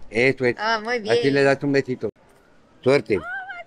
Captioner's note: speaking Spanish